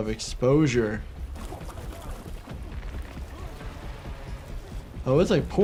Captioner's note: dramatic tense music; blood gurgling